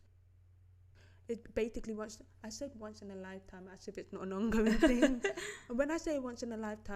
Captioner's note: laughter